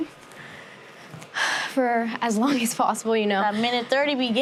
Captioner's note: sighs